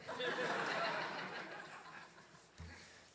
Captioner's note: laughter